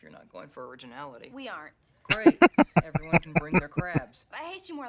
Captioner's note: laughing